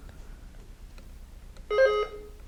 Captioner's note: button buzzing